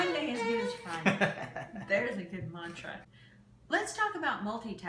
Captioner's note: laughs